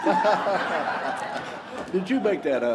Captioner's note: laughter